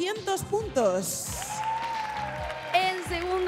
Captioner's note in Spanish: Aplausos